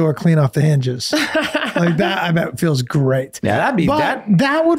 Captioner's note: laughing